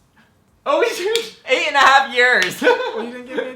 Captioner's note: laughs